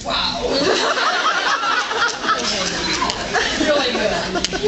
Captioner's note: laughs